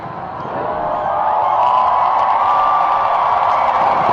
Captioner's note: crowds cheering